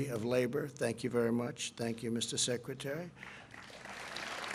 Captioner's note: applause